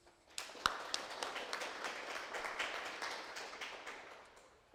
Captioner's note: audience applauding